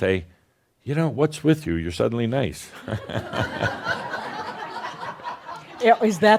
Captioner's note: laughter